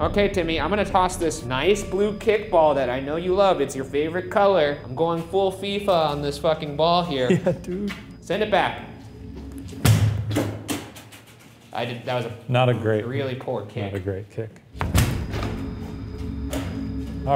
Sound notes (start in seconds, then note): 9.7 ball bouncing; 14.7 tense atmospheric music